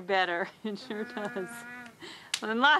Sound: chuckling

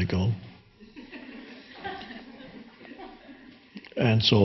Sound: audience laughing

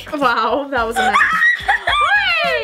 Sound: screaming

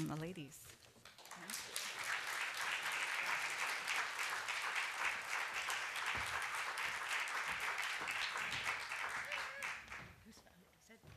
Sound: applause

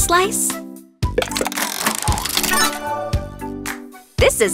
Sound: turning sound

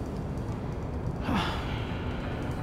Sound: Ima sighs

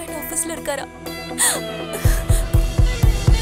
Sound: gasps

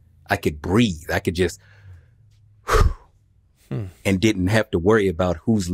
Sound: sighs

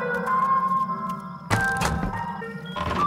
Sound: crossbow shooting

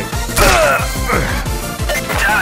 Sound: korean moans

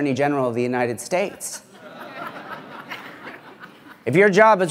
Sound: laughter

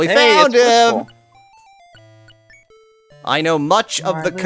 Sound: pause

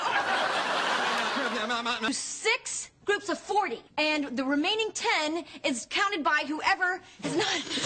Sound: laughs

